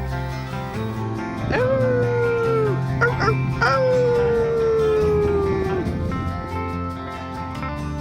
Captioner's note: howling at coyote